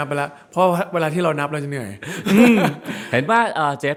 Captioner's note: laughs